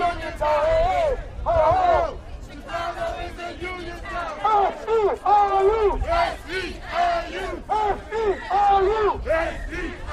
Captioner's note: chanting